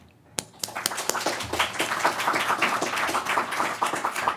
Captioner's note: crowd applauding